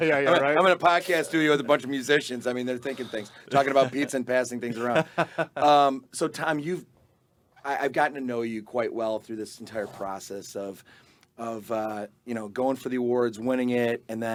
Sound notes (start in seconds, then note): 0.0 group laughing; 4.6 laughing